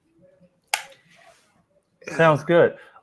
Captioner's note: clicking